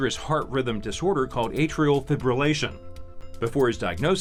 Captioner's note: none